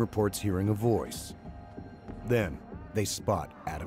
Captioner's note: voiceover